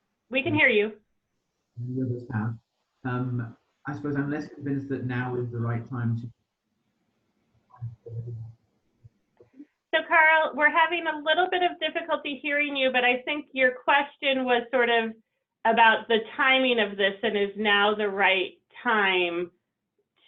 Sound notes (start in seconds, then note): 7.8 audio warbles